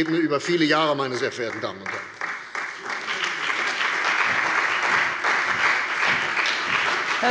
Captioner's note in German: Beifall bei der CDU und dem BÜNDNIS 90/DIE GRÜNEN